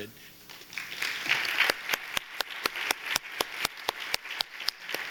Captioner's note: audience applauding